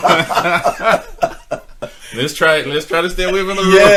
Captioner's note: both laughing